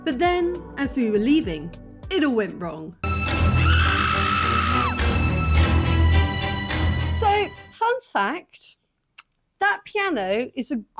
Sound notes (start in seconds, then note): 3.0 horror music; 3.4 loud scream